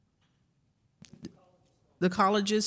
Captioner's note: woman speaks softly